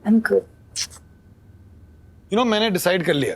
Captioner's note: kissing